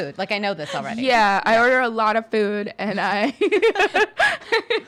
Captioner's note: laughing